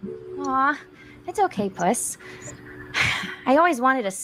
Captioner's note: sighs